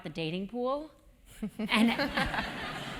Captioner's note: laugh